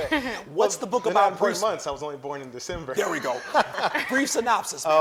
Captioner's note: laughing